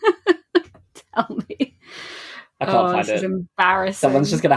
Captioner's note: laughing